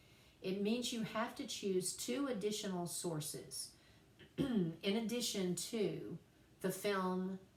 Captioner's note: cough